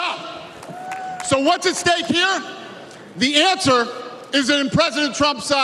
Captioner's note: cheers and applause